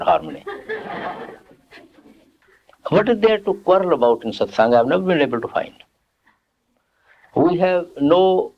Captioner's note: laughter